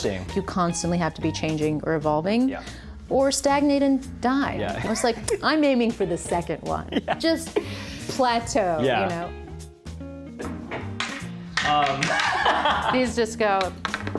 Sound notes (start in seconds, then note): 6.9 laughs; 12.0 laughs